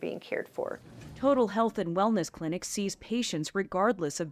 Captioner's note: voice-over